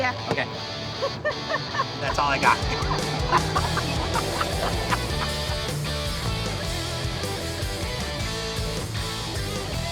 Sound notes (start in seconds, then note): 0.9 laughs; 1.8 energetic music; 3.0 laughing